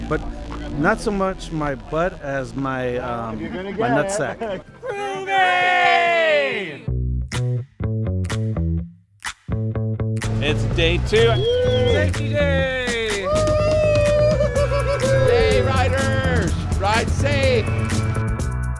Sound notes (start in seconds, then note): 4.8 crowd cheering; 5.8 upbeat music; 14.4 crowd chattering